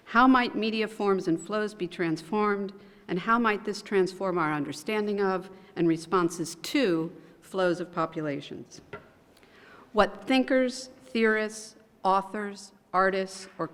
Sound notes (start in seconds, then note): none